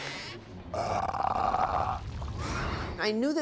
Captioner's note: belching